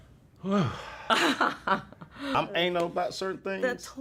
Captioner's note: laughs